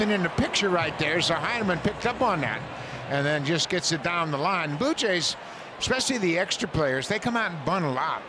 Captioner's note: applause